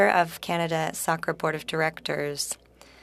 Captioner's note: speaking French